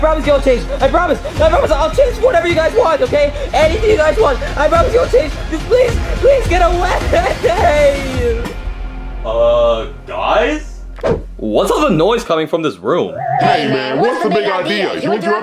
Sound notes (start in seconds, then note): 8.3 sobbing; 11.0 air whooshing